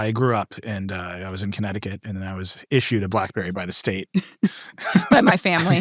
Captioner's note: laughs